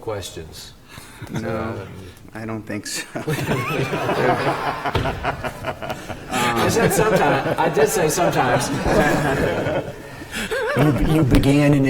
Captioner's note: laughter